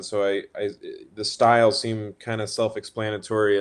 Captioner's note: none